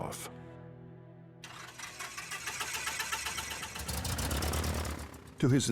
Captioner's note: engine turns over